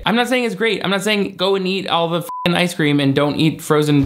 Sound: beep

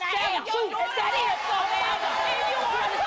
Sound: yelling

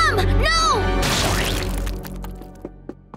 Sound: splatting

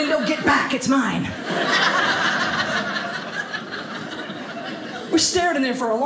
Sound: audience laughing

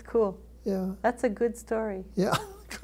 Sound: laughs

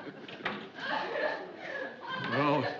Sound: sobbing

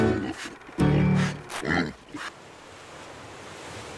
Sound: pig snorting

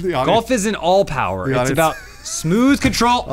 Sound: laughing

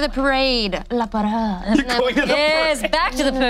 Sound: speaks in foreign language

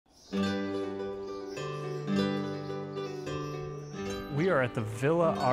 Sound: birds chirping; soft lilting music

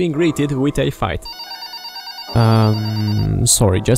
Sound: phone rings

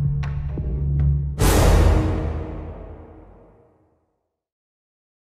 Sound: dramatic burst

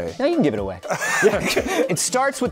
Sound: laughter

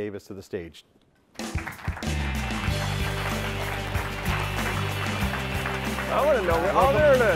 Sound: upbeat music; audience cheering

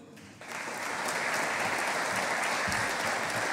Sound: audience applauding

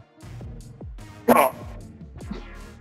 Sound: hit sound

